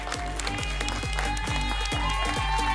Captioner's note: applause and cheering